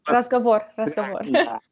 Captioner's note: conversation